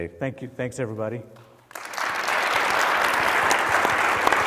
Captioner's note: applause